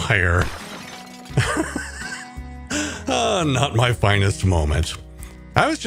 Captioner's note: laughing